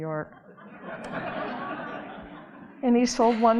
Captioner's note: audience laughing